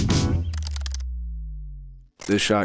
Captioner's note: keys typing